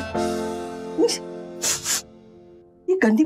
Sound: sniffing

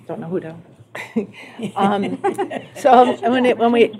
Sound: laughter

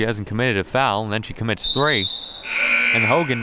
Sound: siren buzzing

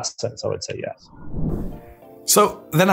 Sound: whooshing; upbeat music

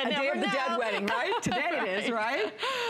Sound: laughter

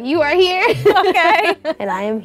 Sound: laughs

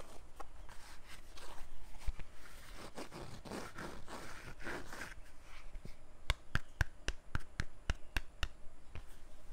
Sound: scratching and tapping waxed canvas

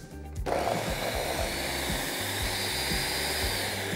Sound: blender whirring

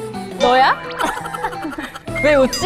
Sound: just laughing

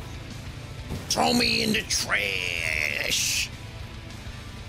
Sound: in Danny Devito voice

